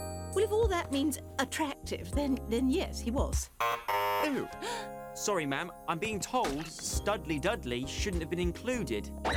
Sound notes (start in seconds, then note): 3.6 buzzer; 4.6 gasps